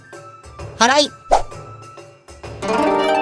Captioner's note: sweeping